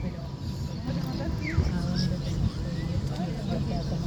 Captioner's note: background chatter and birds chittering